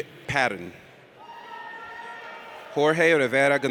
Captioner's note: audience cheers